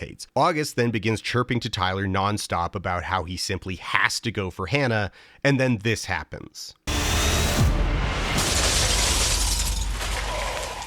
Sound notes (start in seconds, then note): 6.8 dramatic music; 8.0 glass shattering